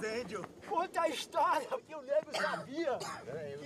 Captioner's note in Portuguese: tosse